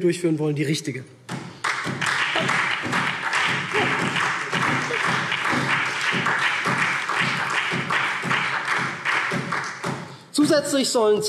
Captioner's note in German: Beifall SPD